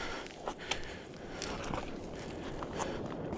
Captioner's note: deep breathing